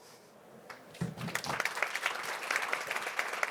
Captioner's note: applause